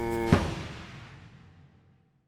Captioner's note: thud